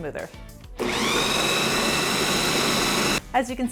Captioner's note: food processor whirling